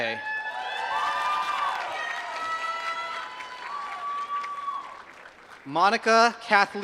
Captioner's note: applause